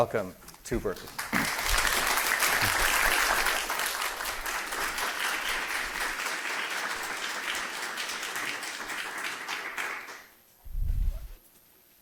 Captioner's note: applause